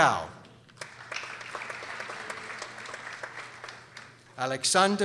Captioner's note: people applauding